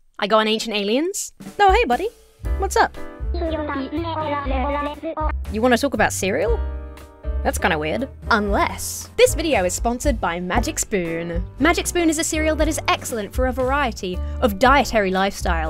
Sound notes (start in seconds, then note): 3.3 speaking gibberish